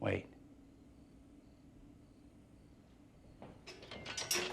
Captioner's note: crickets chirping; metal clanging